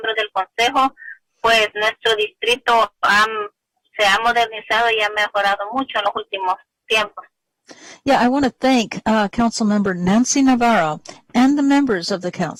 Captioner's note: speaking spanish